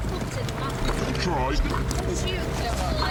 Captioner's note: water splashing